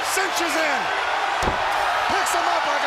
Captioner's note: crowd cheering